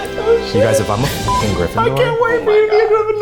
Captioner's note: beep